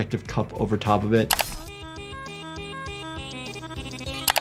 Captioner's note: energetic music; mouse clicking